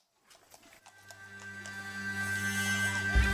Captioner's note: horse hooves on stone